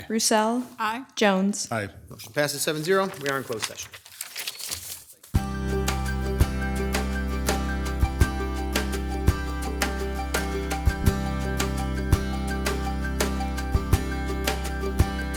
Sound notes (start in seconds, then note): 4.3 paper crinkles; 5.7 soft upbeat music